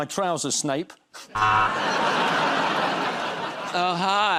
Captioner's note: laughter